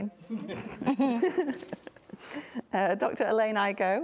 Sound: both laughing

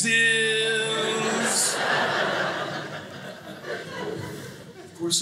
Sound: audience laughing

